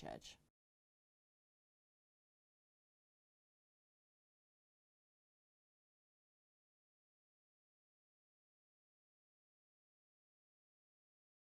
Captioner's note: no Sound Present